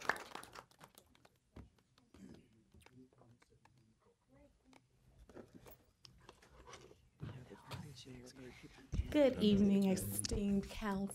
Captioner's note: applause